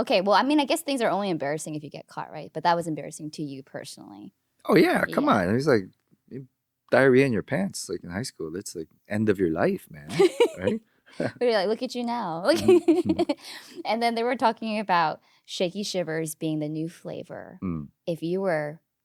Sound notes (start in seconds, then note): 9.9 laughing; 12.5 laughing